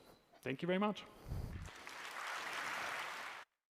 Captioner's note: applause